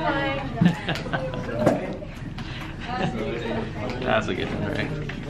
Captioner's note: chuckles